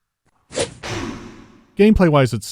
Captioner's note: chop